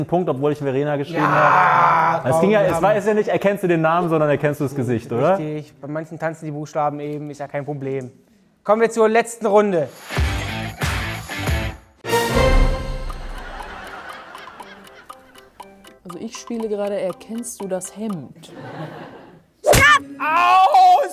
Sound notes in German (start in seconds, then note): 10.0 Rockige Musik; 13.4 Lachen; 14.2 Abwartende Musik